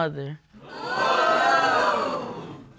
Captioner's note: audience exclaims